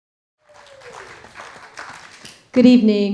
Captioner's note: audience applauding